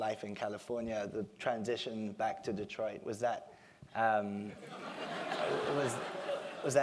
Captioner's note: laugh